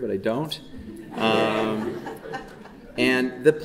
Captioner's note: audience chuckling